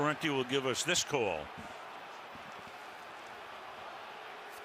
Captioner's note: booing